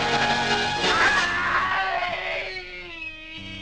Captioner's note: screaming